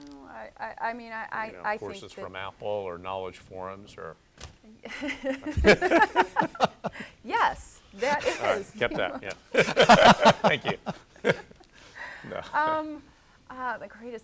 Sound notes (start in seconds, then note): 4.9 laughter; 12.1 laughter